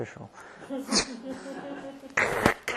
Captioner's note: laughter